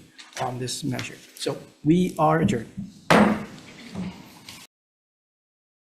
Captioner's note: gavel thuds